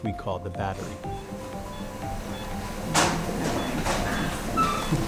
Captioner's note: heart monitor beeping